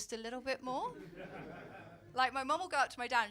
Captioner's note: audience laugh